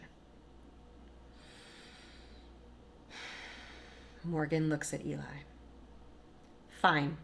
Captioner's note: deep breath